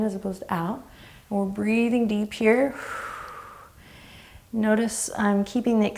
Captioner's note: exhaling